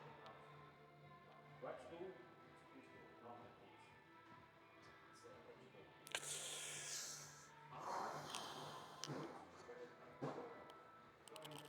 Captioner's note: sighing